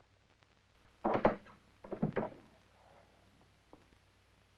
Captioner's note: door clicking